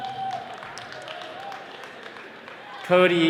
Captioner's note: attendees clapping